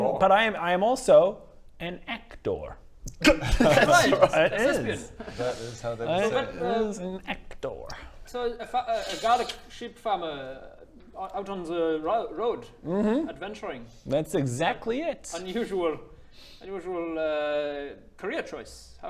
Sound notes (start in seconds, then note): 4.3 very unsupportive giggles